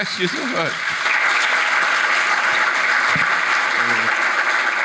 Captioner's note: audience applauding